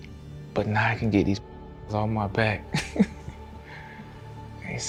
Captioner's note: laughs